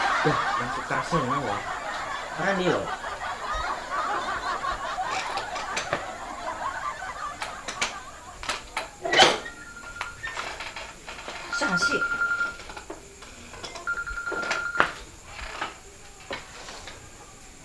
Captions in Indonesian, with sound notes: Duh! Bete gini. Ke mana ya? [HP berdering] Siapa sih?